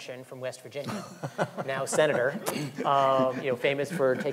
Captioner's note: laughing